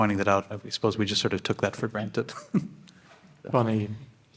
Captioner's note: chuckles